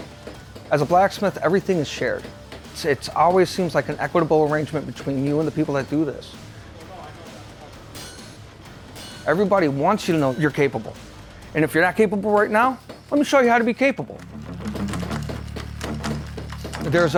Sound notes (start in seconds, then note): 6.8 iron clanging; 14.0 dramatic music